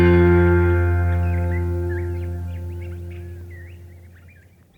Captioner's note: birds chirping